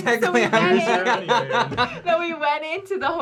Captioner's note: laughing